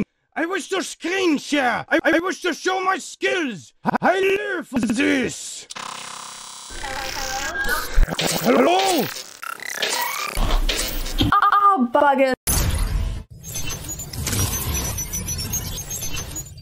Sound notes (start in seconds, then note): 5.7 electronic stuttering; 6.8 electronic voice